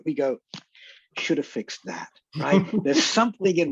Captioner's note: laughs